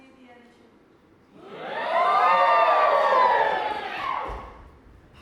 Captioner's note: audience: wooooo